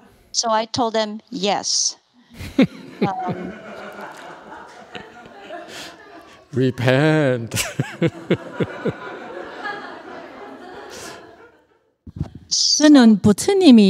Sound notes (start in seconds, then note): 0.8 laughs, audience laughs; 7.0 laughs